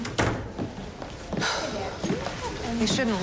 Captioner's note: sighs